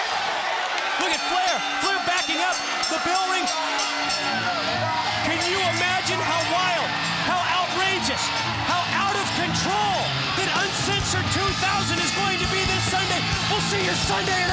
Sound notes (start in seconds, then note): 2.9 bell ringing